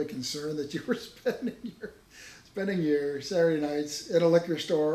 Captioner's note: giggles